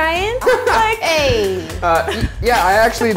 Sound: laughs

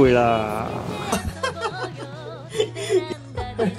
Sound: incontinence laughing

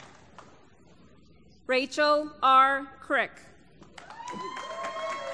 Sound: applause

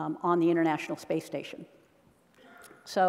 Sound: none

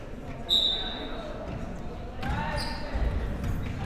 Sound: whistle

